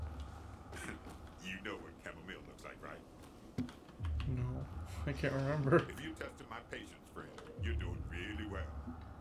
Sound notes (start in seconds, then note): 5.3 laughs